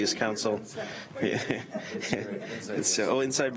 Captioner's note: laughing